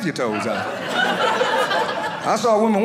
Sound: audience laughing

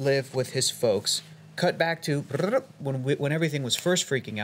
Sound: none

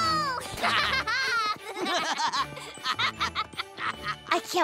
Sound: laughing

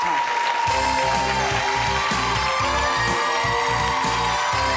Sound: applauding and cheering

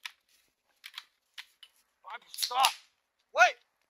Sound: gun cocking

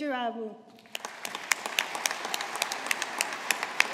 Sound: audience applauding

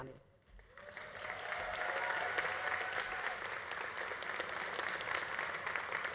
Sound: audience applauding; audience cheering

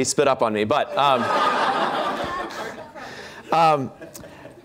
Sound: laughter

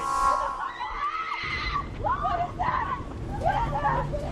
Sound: screaming

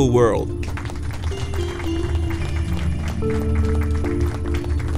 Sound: applause

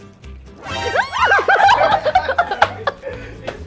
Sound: screams

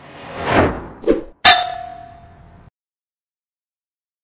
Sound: flying sound; arrow bangs against target

